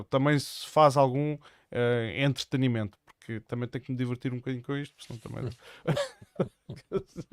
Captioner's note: laughs